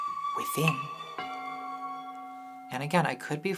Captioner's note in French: cloche douce